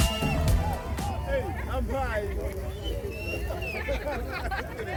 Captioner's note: cheering and shouting